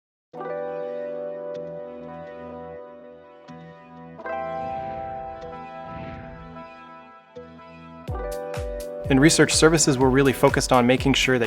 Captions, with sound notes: (gentle music) (air whooshing) In research services, we're really focused on making sure